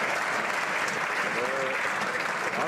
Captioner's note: some Applause